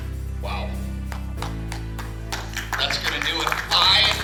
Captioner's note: clapping